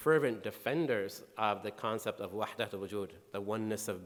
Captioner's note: speaking in foreign language